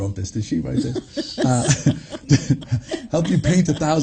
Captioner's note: laughs